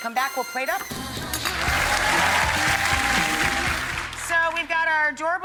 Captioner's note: audience cheering